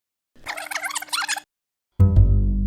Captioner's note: tape rewinding; jazz bass